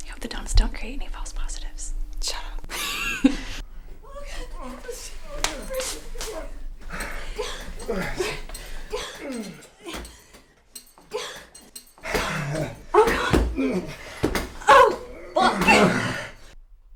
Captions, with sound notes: I hope the donuts don't create any false positives. Shut up. [Laughs] [UNDIGNIFIED SEX NOISES]